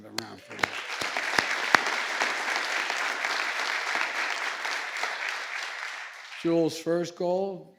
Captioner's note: applause